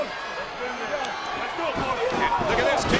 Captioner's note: crowd yelling